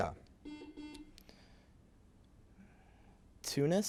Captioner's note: buzzer beeps